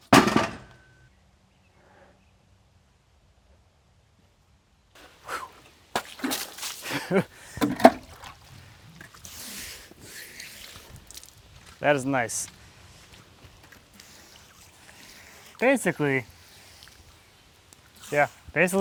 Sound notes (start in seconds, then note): 5.8 water splashing; 6.8 laughing